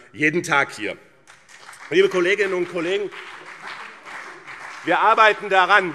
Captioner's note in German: Beifall BÜNDNIS 90/DIE GRÜNEN und vereinzelt CDU